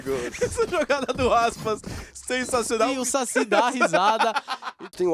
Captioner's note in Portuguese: rindo